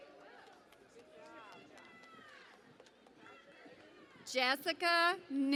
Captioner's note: cheering and Applause